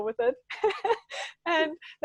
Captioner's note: laughing